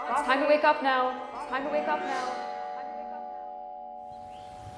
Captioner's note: voice echos